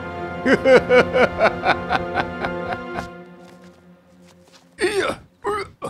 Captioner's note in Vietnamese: Tiếng cười